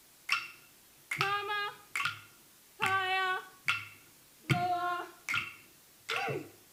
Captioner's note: speaking foreign language